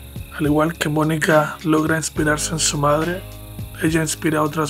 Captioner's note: narrator speaks Spanish